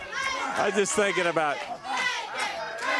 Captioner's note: crowd chatter